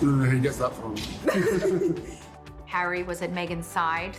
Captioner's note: Meghan and Harry laughing